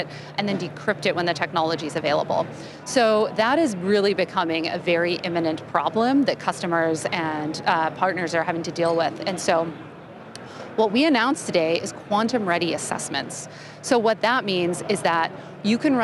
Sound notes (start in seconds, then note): none